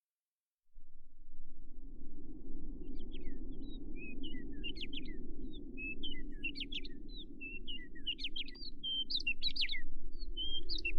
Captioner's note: wind Blowing and Birds Chirping